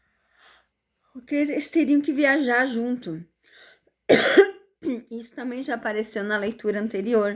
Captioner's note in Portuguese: limpando a garganta